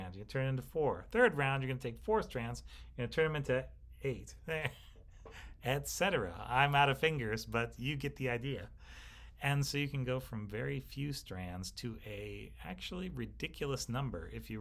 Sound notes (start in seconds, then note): 4.4 instructor scoffing